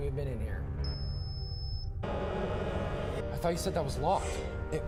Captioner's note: alarm system beeping